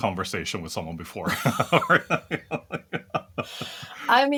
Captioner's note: laugh